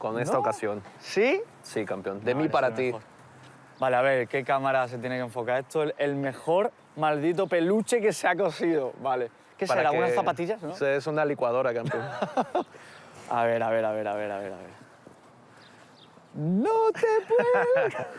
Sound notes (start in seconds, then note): 11.8 laughs; 16.4 laughs